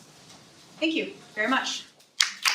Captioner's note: applause